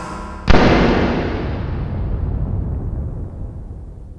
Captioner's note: gun bangs